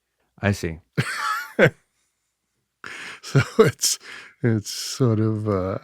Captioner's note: laughs